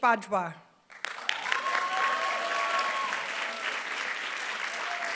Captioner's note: applause